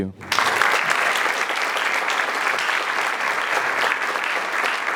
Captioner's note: applause